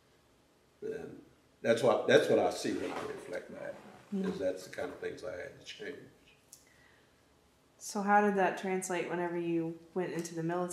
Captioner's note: laughs